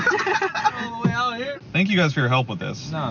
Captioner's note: laughter